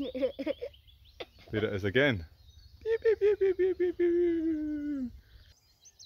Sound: repeats bird noise

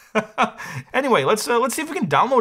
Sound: laughs

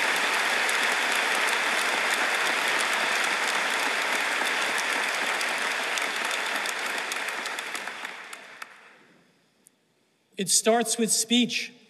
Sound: applause

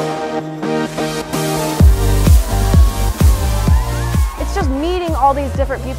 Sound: kids cheering

